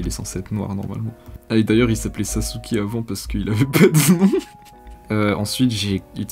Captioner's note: laugh